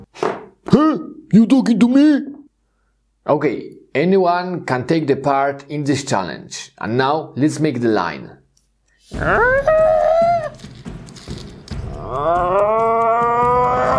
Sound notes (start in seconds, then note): 9.3 high-pitched groaning; 11.8 groaning